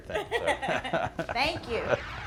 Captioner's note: both laugh